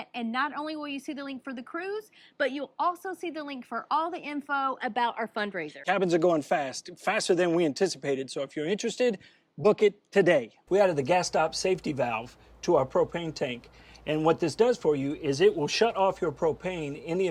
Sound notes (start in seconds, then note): none